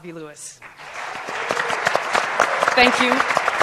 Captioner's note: applause